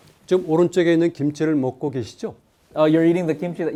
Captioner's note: speaking in Korean